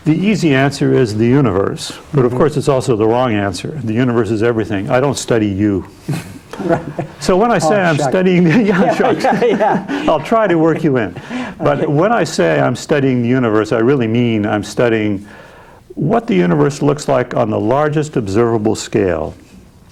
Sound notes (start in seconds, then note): 6.0 chuckles; 8.3 both laughing; 9.8 laughing